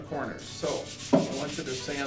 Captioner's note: sandpapers rasping